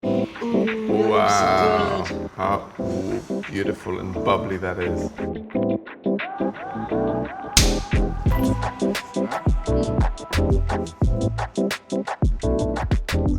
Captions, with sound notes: - Wow - Looks good - How beautiful and bubbly, that is. (upbeat music) (tapping) (upbeat music continues)